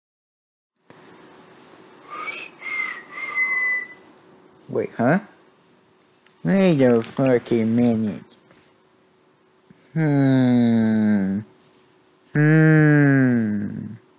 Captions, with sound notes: (poorly whistling) wait, huh? wait a fuckin minute... hmmmmm HMMMMM